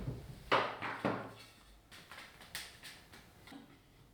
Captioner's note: objects clattering